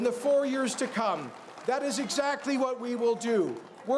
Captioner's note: cheers and Applause